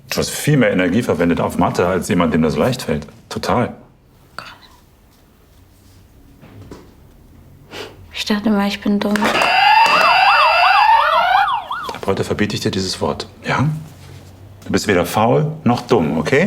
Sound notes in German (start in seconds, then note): 4.9 flüstert; 9.3 Lautes Alarmsignal